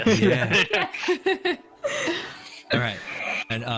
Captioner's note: more giggles